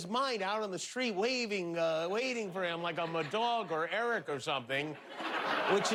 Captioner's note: laughter